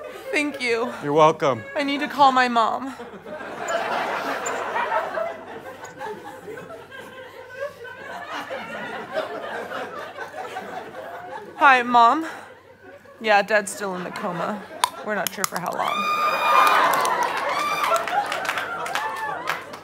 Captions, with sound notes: Thank you. You're welcome. I need to call my mom. Hi Mom? Yeah, Dad's still in the coma. We're not sure for how long. [laughter]